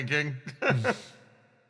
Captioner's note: Melon sigh